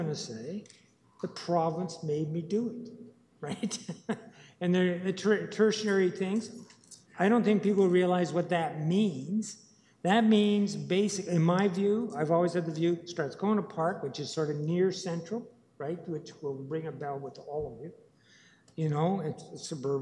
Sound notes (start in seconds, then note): 3.4 laughing